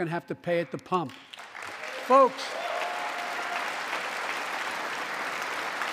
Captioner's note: applause